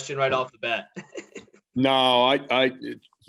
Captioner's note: laughs